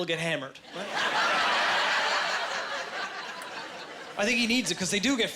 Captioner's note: laughing